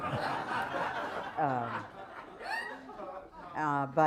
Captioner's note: laughter